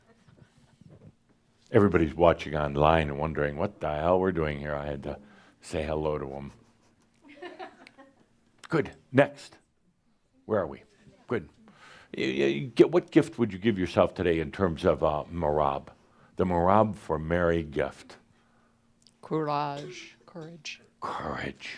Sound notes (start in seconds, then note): 7.5 a few chuckles